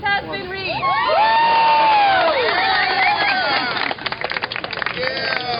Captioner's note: cheering and applause